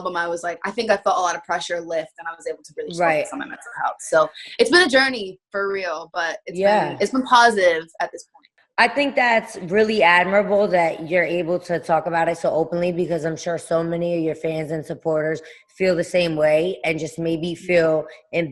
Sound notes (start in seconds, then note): none